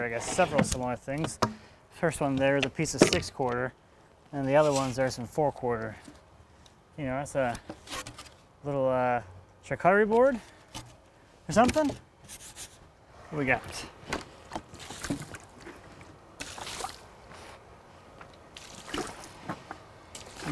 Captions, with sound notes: I guess several smaller things. First one there the piece of six quarter, and the other ones are some four quarter. You know, that's a little charcuterie board or something. We got. (water splashing)